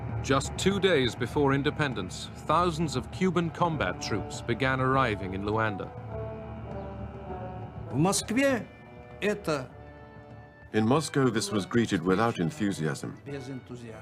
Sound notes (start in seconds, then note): 9.0 non-english speech